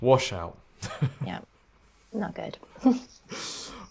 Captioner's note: laughs